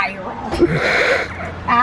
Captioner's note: snorts